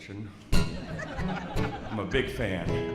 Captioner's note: audience laughs